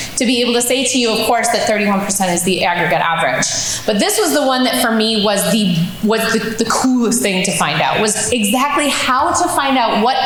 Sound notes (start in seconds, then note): none